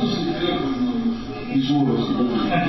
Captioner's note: laughs